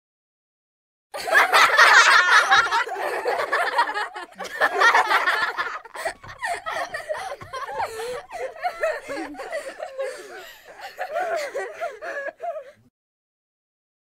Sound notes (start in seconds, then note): 1.1 sound of laughter